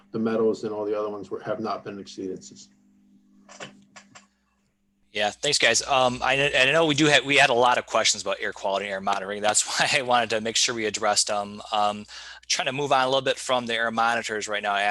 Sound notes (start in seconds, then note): 3.7 clicking; 9.6 chuckling